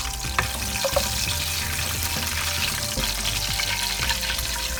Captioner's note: sizzling sound of frying